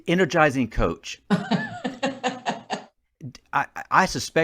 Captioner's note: chuckles